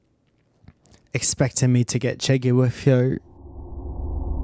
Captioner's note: English accent